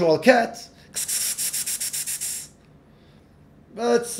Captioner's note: hisses